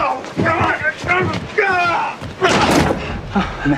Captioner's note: more fighting noises